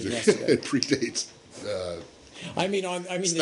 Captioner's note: laughter